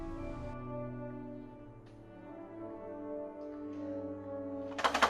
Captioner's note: cup rattles